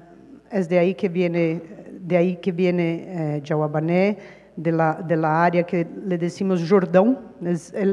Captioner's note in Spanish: habla en portugués